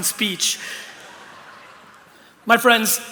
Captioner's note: laughter